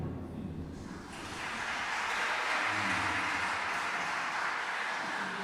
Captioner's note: applause